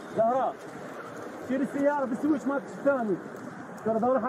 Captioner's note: speaking Arabic